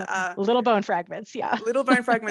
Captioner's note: laughs